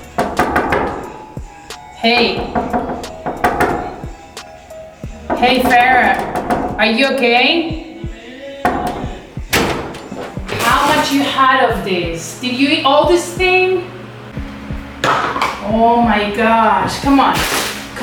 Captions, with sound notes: (door knocks) - Hey. (door knocks) - Hey, Farah. (door knocks) Are you okay? - Yeah. (door bangs) - How much you had of this? Did you eat all this thing? Oh, my gosh. Come one. (paper rustling)